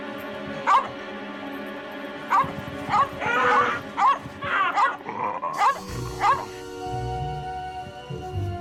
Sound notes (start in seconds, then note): 2.9 dog barking; 3.2 Jimmy howling